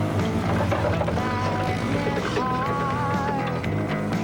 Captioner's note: loud clattering of engine